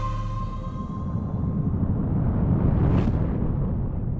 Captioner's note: letters whooshing